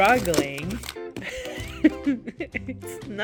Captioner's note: painful laugh